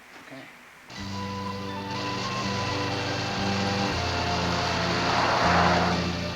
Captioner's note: light music; engine rumbling